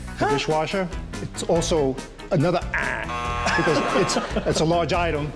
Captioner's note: buzzer